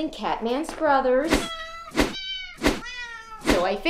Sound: SFX: Cat meows

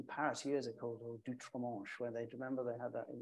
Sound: speaking in French

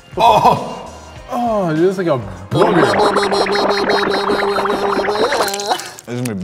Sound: making weird noises

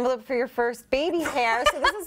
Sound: laughter

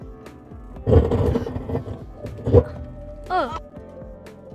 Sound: car scraping

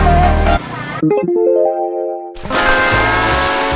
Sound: soft chime

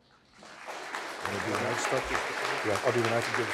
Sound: applause

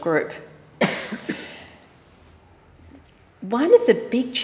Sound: audience coughs

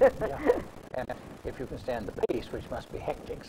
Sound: laughs

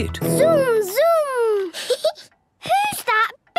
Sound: rattling; giggling

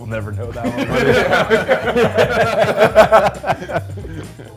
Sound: men laughing

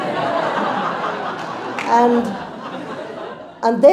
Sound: crowd laughs

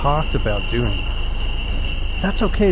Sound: plane engine revving

